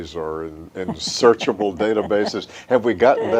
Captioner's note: chuckles